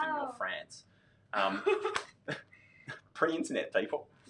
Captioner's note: laughs